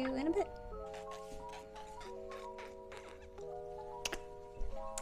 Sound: kissing noises

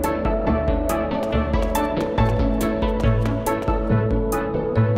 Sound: footsteps

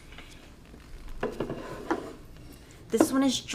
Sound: board clanking

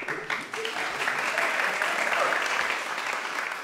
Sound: applause

